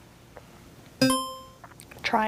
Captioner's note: buzzer chiming